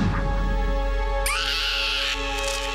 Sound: screaming

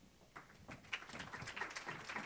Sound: applause

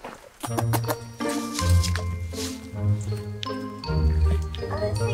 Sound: curious music; lips smacking

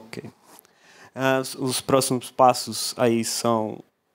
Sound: non-english speech

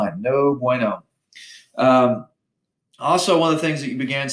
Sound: speaks in foreign language

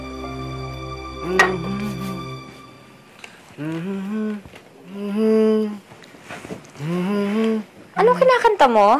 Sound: Romeo humming

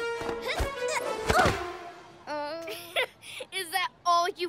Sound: laughter

